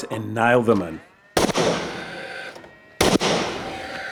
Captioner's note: nail gun sound